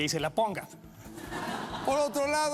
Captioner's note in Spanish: risas